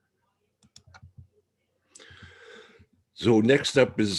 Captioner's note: mouse clicking